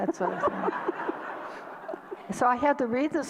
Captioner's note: audience laughter